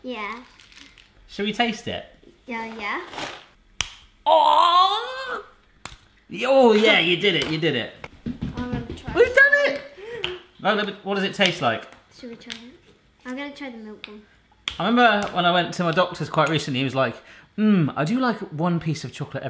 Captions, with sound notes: - Yeah. - Should we taste it? - Uh, yeah. (chocolate snapping) - Ah! (chocolate snapping) Oh, yeah, you did it, you did it. (light stomping) - I'm gonna try. - We've done it! Now, what does it taste like? - Should we try it? I'm gonna try the milk one. - I remember when I went to my doctor's quite recently, he was like, hmm, I do like one piece of chocolate